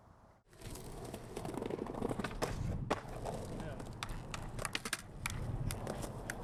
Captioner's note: crackling skateboard wheels